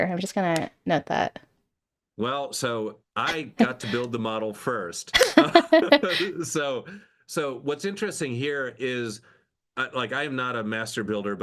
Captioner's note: laughing